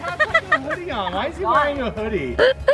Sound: laughs

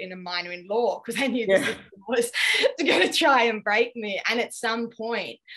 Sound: laughs

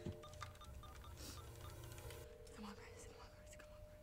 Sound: phone dialing

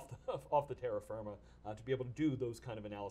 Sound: chuckles

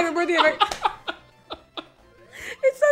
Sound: laughing

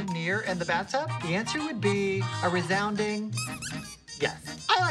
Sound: squeaking

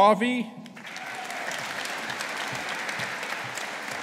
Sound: audience applauding

